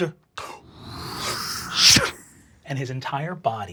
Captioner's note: whooshing